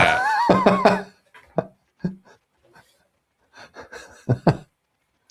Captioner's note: laughs